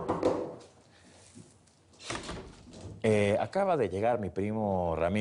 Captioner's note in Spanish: Toques en la puerta